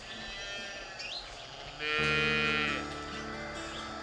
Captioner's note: cows mooing